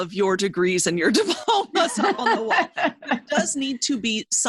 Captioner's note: laughs